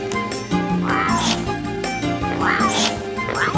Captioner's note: meowing